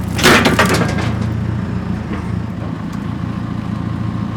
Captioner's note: metal clanging